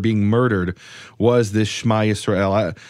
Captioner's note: speaks in foreign language